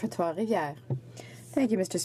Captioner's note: speaking French